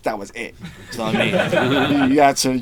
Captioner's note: group laughing